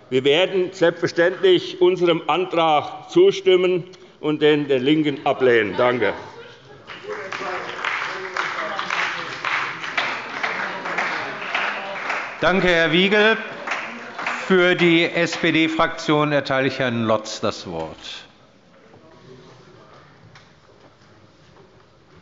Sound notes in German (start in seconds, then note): 6.8 Beifall bei Abgeordneten der CDU und bei dem BÜNDNIS 90/DIE GRÜNEN